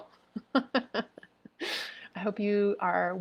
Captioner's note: laughing